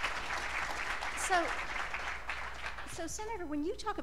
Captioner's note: applause